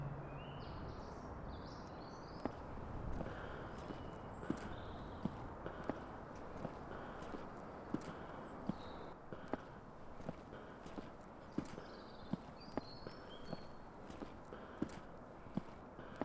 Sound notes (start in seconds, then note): 0.2 birds chirping; 9.5 ventilated breathing